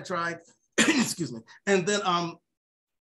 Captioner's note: coughs